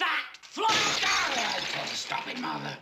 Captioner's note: glass shattering